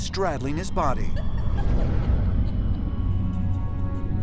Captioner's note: sinister laughter